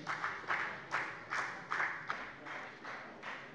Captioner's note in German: Beifall bei der FDP